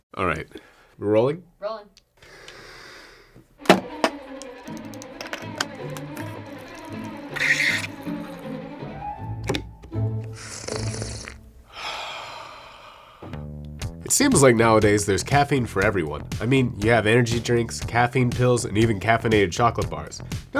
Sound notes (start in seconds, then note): 3.8 intense music; 10.2 gentle sips; 11.6 exhales